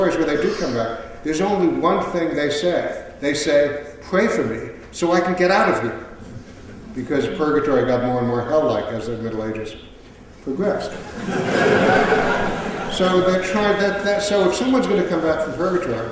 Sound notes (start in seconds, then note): 10.9 laughter